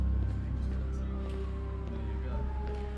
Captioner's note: chattering